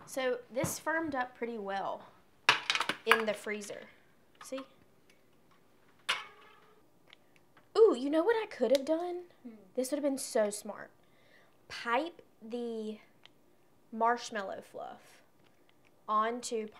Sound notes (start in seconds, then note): none